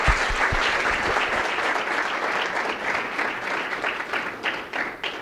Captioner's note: applause